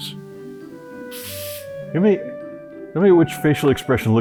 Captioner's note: aerosol can hisses